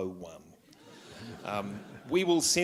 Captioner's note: laughter